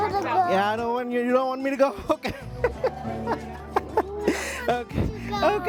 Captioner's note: laughs